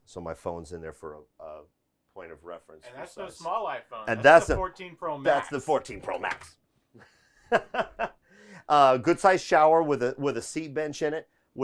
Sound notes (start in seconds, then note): 8.0 laughing